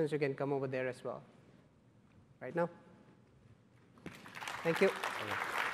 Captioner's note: applause